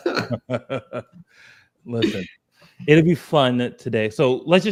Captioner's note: laughs